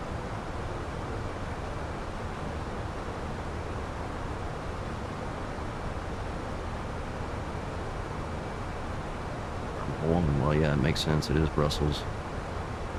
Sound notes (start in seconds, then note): 8.2 radio chatter